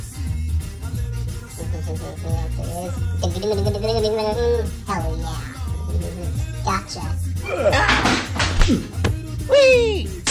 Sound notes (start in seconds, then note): 3.2 fake laugh; 3.4 humming